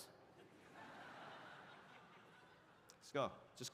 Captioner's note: audience laughs